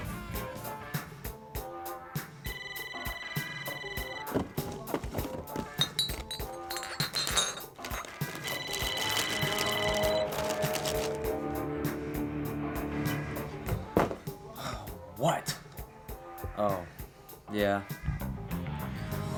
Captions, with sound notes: (funky music) (phone ringing) (bottles clanking) (phone ringing) - (sighs) What? Oh, yeah.